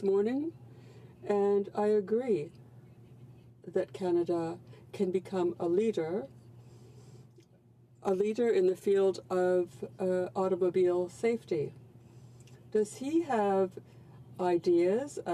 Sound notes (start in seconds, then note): 0.7 speaking French